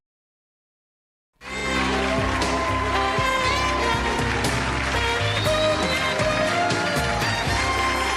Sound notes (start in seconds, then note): 1.4 upbeat music; 1.4 applause